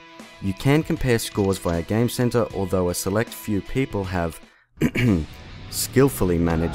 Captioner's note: ahem